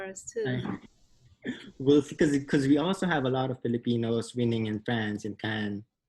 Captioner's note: laughs